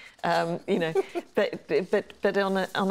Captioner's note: laughs